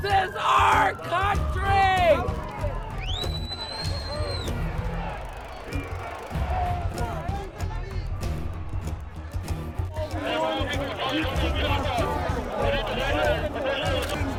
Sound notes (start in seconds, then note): 5.6 chanting; 10.6 crowd yelling